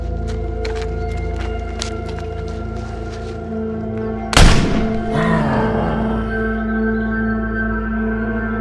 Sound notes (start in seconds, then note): 4.3 gunshot; 5.5 animal grunt